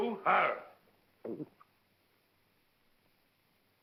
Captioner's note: gulps